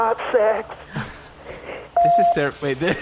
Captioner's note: voicemail beeps